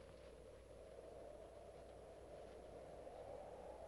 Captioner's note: wind whistling